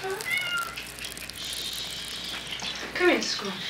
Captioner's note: fizzing